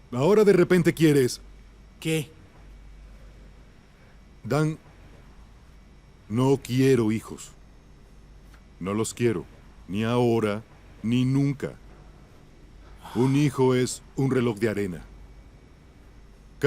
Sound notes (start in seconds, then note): none